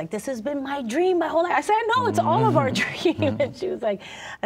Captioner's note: laughing